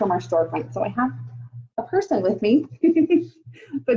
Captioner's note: giggles